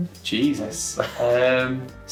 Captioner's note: laughing